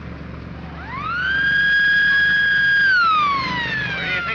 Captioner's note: siren wailing